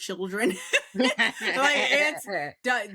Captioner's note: laughs